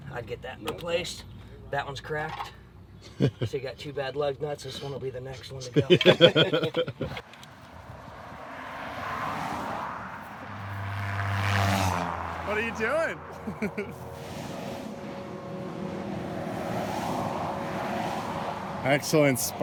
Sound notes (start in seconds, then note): 11.2 laughter